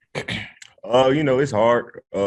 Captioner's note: clears throat